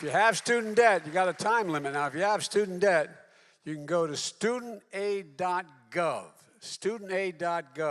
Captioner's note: applause